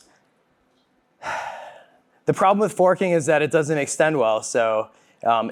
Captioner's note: sighs